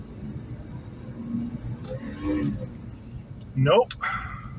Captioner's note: transmission whines